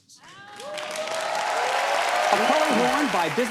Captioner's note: cheers and applause